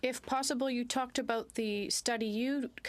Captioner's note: speaking French